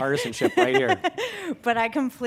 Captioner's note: laughing